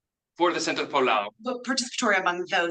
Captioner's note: speaks in Spanish